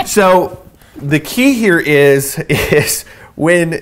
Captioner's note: chuckles